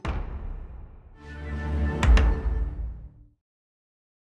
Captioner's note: text thumps; gentle music; logo thumps